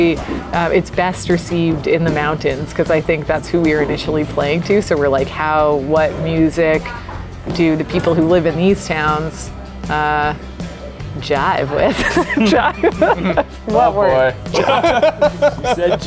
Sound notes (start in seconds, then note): 11.9 laughs; 13.3 groups chattering